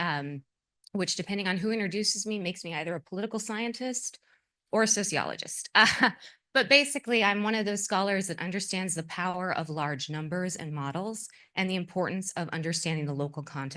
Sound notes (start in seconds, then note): 6.1 laugh